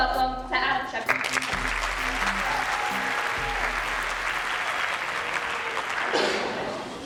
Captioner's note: applause